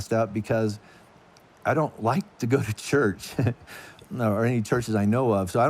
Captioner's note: laughs